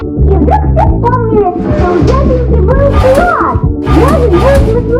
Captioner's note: a voice from behind the door